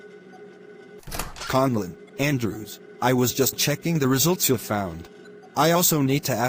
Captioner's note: door opens